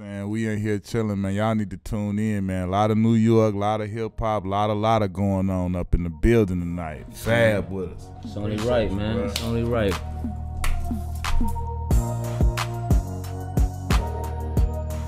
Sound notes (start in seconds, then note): 10.6 hands smacking; 11.9 hip-hop music